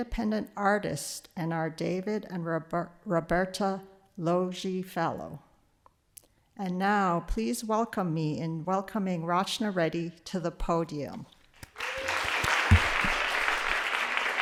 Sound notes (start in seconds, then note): 11.7 applause